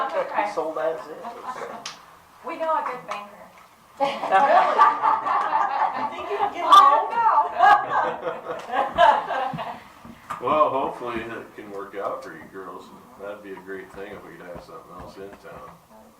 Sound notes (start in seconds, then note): 4.0 laughter